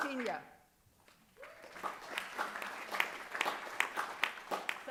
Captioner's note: applause